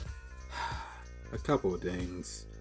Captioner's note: sigh